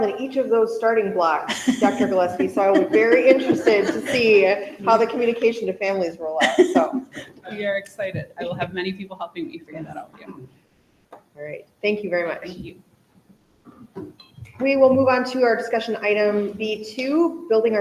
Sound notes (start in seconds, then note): 1.6 laughs